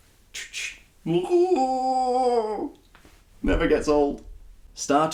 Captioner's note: roaring